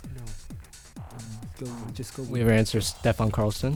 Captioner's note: wispering